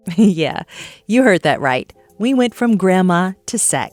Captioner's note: chuckle